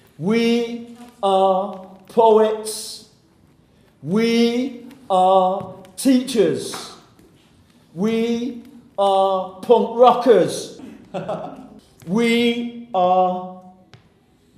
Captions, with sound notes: We are poets. We are teachers. We are punk rockers! [Chuckles] We are...